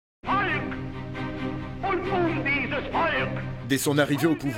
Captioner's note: German spoken audio